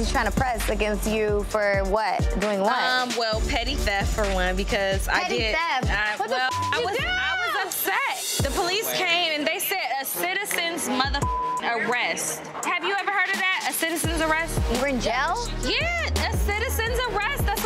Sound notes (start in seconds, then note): 11.2 beep